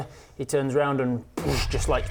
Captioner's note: boosh!